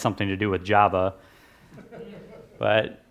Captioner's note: laughs